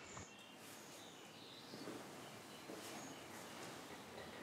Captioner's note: birdsong